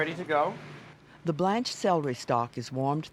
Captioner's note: voiceover